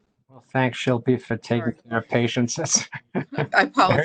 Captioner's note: laughs